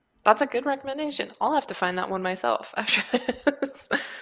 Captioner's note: laughs